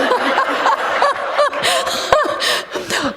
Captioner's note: laughter